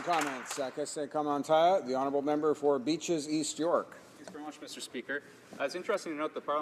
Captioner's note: applause